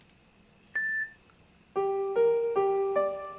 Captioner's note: beep; fast piano playing